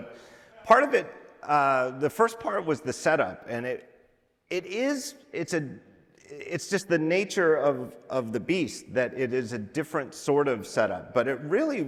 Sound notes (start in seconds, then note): none